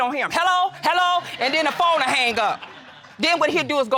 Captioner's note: audience laughing